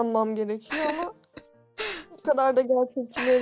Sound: chuckling

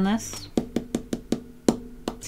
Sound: finger tapping

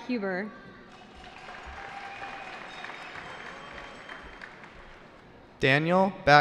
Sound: cheering

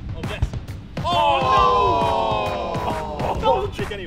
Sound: booing

